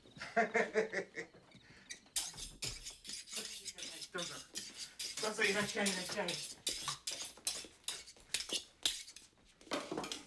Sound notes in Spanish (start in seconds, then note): 0.2 riéndose; 4.1 hablando japonés